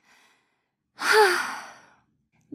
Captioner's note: sigh